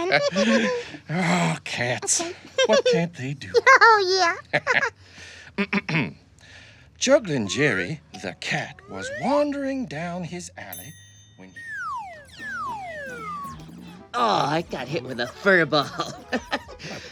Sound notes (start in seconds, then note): 0.0 laughs; 3.4 laughter; 5.5 clears throat